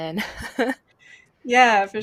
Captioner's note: laughs